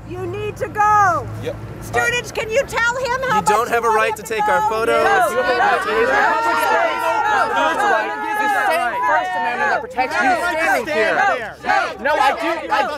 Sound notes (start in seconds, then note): 5.2 chanting